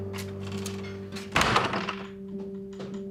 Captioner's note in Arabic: يغلق الباب